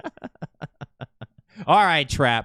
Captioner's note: laughs